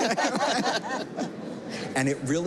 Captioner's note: all laughing